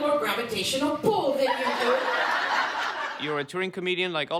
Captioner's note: audience laughter